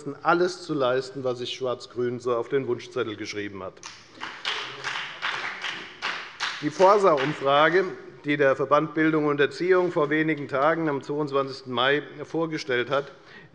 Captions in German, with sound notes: alles zu leisten, was sich Schwarz-Grün so auf den Wunschzettel geschrieben hat. [Beifall bei der FDP] Die Forsa-Umfrage, die der Verband Bildung und Erziehung vor wenigen Tagen, am 22. Mai, vorgestellt hat,